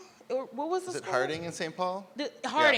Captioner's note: voiceover